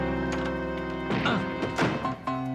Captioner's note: tense music; groans; tense music